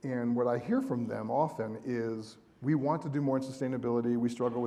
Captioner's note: none